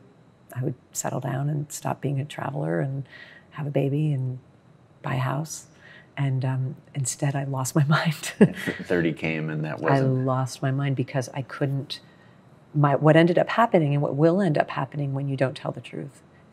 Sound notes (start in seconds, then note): 8.5 laughs